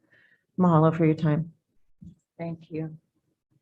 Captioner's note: speaks in foreign language